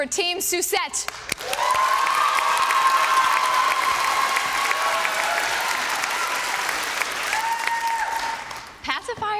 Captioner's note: applause